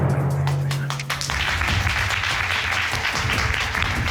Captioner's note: audience applauding